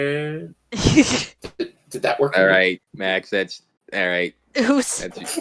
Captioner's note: chuckle; chuckles